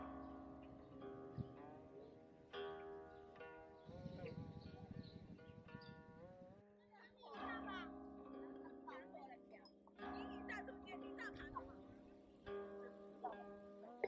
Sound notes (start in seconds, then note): 7.2 soothing music; 7.7 chatter in the background